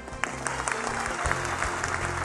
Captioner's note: applause